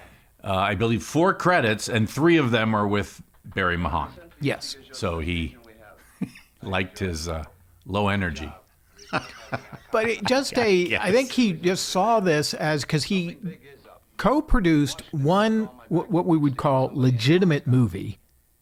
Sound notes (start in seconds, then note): 6.0 laughs; 8.9 laughs